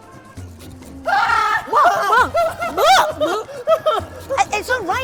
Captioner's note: screaming